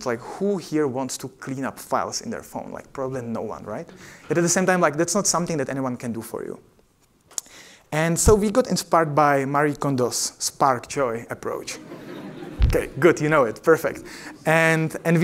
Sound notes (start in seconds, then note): 11.7 laughter